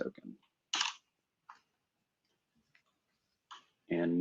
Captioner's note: typing